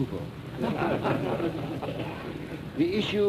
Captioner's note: laughter